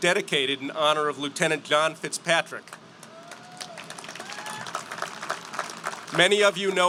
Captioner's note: applause